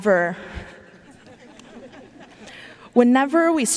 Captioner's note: audience laughing